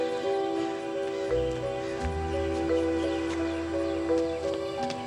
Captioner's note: bird squawks in distance; dramatic music